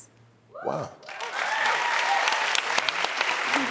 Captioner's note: audience cheering; audience clapping